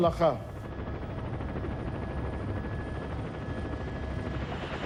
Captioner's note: chopper whirring